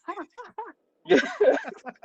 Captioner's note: laughter